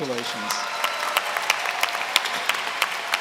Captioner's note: applause